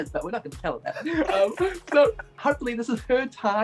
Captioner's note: both laughing